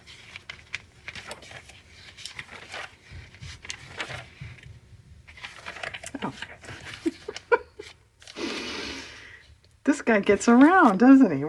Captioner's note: laughs